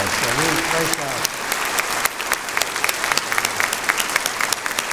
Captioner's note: applause